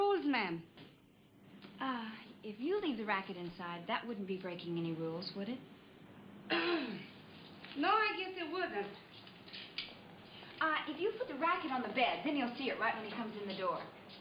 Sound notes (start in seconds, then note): 6.5 clears throat